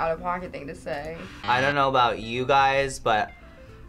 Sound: buzzer

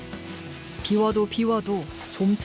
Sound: voiceover

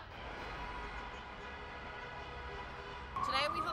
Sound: car horns honking

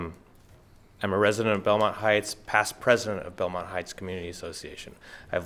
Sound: none

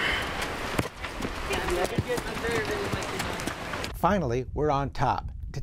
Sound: chatter among the people

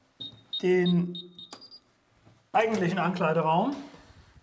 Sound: beeps

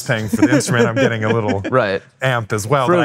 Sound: laughing

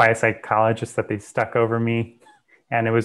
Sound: chuckles

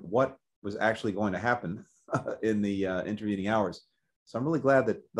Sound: laughs

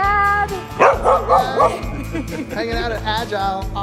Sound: Camper barking

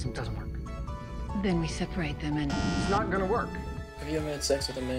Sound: bzzzt

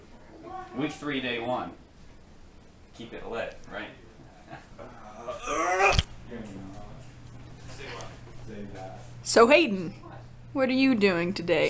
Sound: disappointment noises

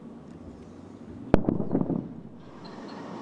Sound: sound of sonic boom

